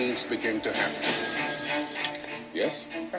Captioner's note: telephone rings